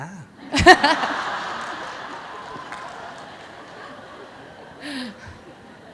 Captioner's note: audience Laughter